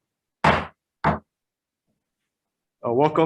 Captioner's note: gavel banging